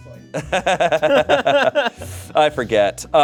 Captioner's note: group laughing